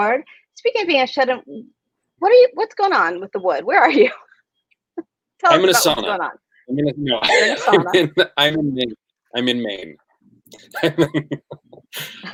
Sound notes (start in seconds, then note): 5.6 laughs; 7.1 laughs; 10.5 laughs